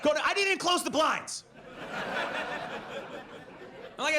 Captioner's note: audience laughs